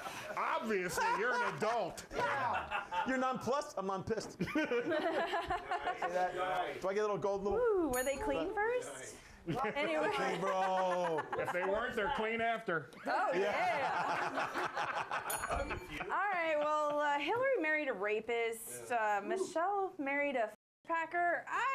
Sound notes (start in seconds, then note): 15.2 bell rings